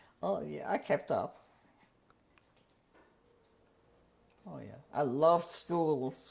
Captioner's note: pauses for 3 seconds